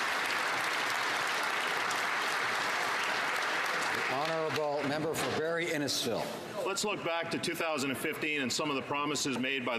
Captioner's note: applause